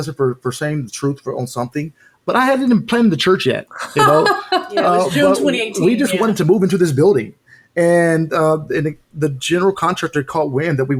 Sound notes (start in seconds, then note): 3.8 laughing